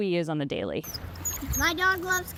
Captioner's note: water stirs